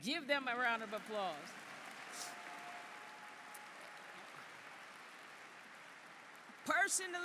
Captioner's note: applause